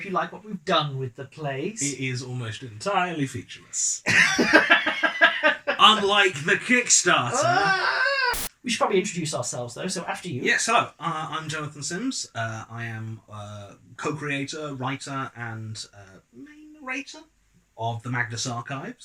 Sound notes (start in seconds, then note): 4.1 laugh